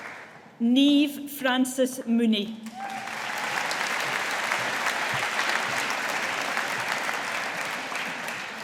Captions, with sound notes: Niamh Frances Mooney. (AUDIENCE APPLAUDING)